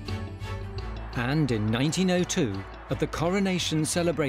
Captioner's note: crowd cheers